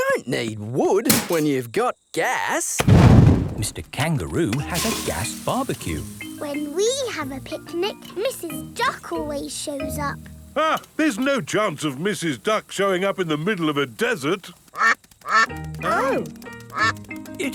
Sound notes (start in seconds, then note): 14.7 quacking